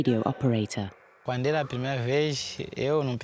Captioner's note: speaking Portuguese